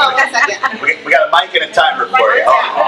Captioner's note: laughs